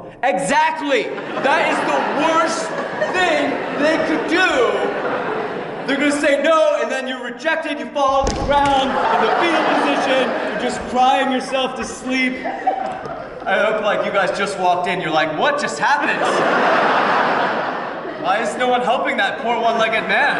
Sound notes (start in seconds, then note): 5.1 laughter; 12.5 laughter; 16.0 laughter